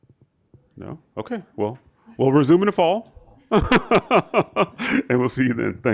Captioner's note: laughs